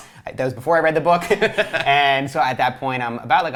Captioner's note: laughs